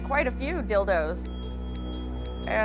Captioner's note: dinging